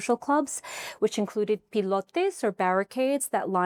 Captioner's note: speaking in foreign language